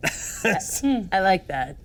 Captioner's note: laughs